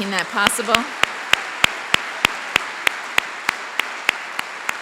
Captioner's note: applause